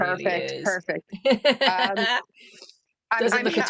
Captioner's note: laughter